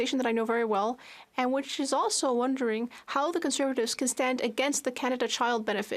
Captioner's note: speaking French